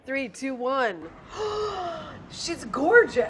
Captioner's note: gasping